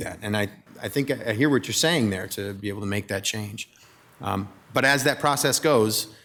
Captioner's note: none